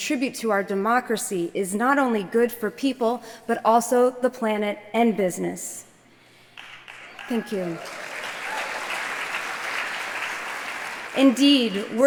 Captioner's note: applause